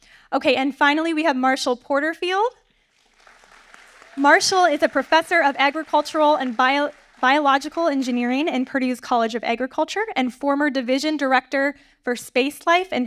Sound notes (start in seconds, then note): 2.9 audience applauding